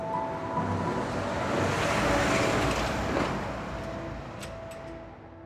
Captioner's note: soft piano music playing; train rumbling sound; soft piano music playing